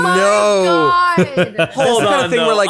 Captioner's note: laughing